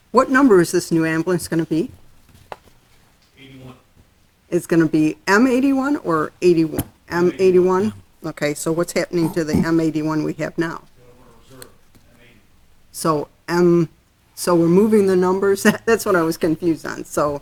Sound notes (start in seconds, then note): 12.6 voice muffled